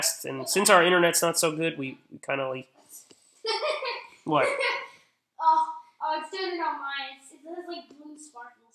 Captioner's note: laughing